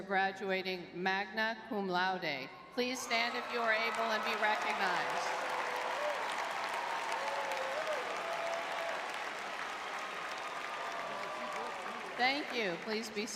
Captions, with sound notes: graduating magna cum laude. Please stand if you are able and be recognized. [audience cheering] [applause] Thank you. Please be